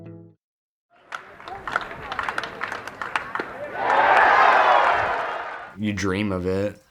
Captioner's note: clapping